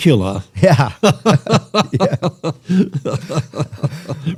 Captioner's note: laughter